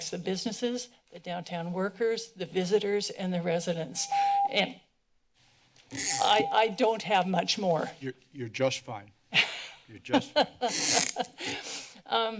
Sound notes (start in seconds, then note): 6.0 beeping; 9.3 laughter